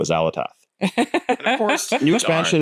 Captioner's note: laughs